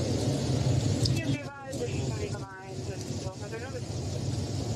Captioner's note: radio chatter